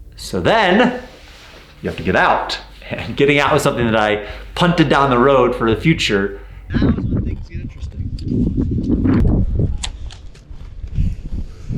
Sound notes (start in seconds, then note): 8.6 wind blowing